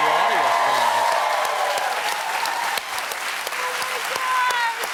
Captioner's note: applause